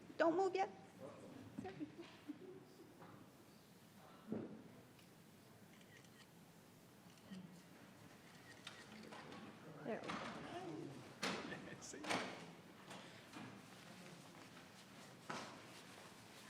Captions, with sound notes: Don't move yet. (people chattering) (camera clicking) There we go. (people chattering)